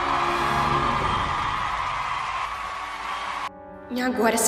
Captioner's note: euphoric crowd